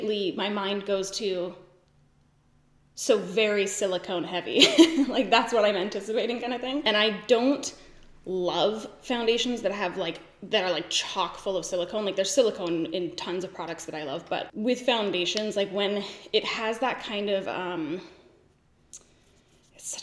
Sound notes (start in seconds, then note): 4.7 laughs